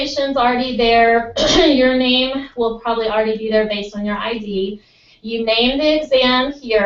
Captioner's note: cough